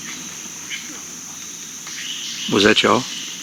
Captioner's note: quiet grunt or growl